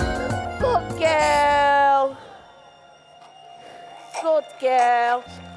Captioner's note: the crying stops, baby sucks on the bottle